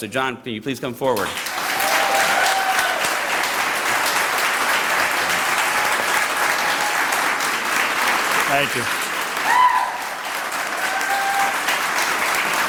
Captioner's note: applause